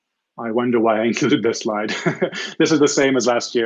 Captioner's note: chuckles